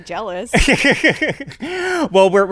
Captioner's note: laughs